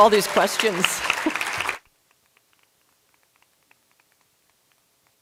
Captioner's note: applause